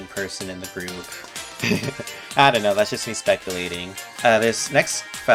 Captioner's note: chuckles